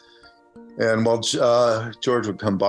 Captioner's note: none